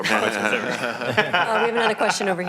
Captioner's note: laughing